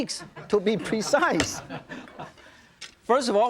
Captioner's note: audience laughing